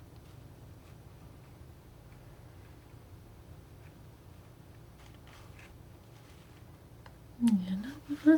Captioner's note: scratching